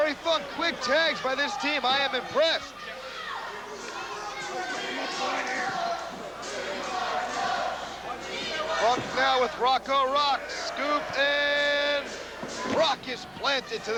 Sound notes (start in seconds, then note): 3.2 crowd cheering